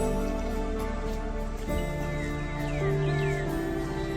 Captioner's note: birds chirping